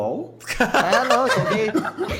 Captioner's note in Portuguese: risada